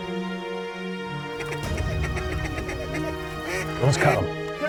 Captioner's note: duck calls